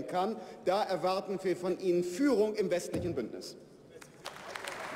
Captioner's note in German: Beifall bei der FDP